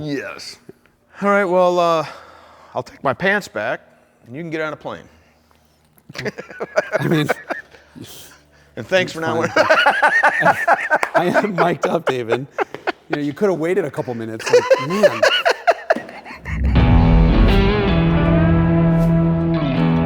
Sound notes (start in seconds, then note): 6.1 laughs; 10.9 laughs; 16.8 upbeat rock music